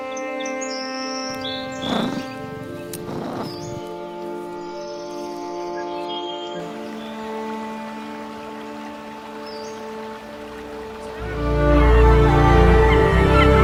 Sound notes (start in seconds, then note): 8.4 water trickles